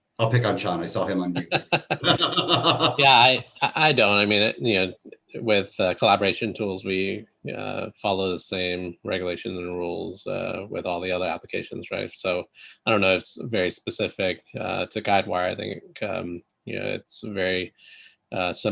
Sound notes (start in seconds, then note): 1.8 laughing